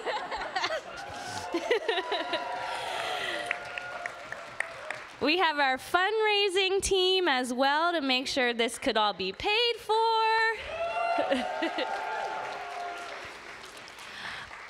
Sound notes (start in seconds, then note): 2.4 laughter; 3.9 applause